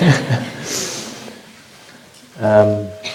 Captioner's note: laughter